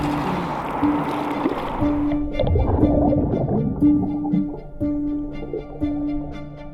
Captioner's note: water bubbling; suspenseful music